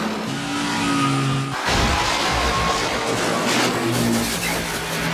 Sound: cars smashing

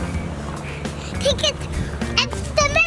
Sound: panting

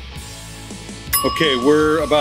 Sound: alarm rings

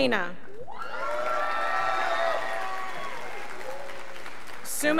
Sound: scholars applauding

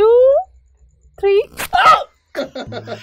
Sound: squeaks!

